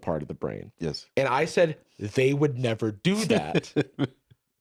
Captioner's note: laughs